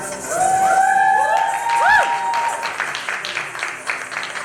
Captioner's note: applause